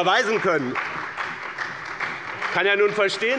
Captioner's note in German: Beifall bei dem BÜNDNIS 90/DIE GRÜNEN und der CDU